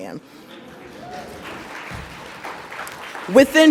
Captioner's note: audience applauds